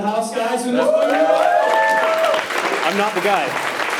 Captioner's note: attendees cheering and clapping